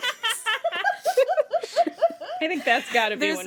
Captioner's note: laughter